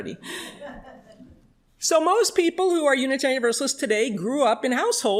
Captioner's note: chuckles